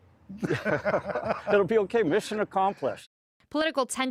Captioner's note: laughter